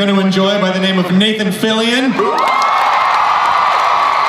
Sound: crowd cheers and applauds

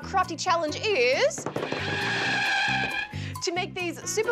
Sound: screech!

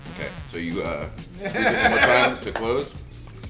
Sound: laugh

